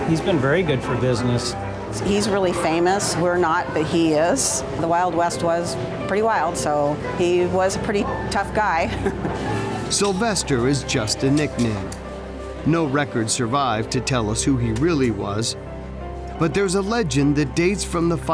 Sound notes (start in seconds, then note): 8.9 chuckling